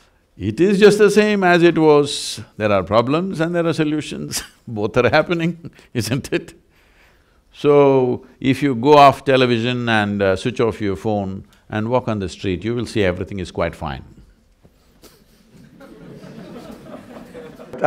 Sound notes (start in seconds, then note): 6.9 laughs; 15.0 laughter